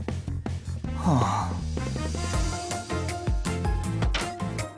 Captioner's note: sigh